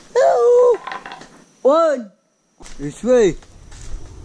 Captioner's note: shouting